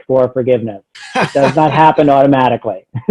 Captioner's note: laughing